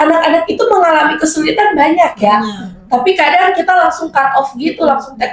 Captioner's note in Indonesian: berdehem